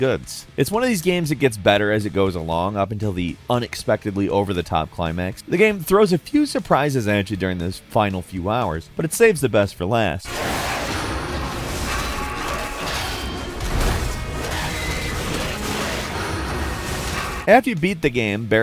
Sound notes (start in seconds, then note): 10.2 monster snarls; 10.2 intense music